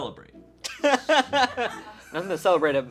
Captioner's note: laughs